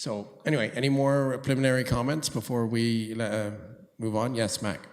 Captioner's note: none